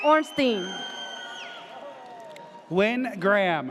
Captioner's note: audience cheers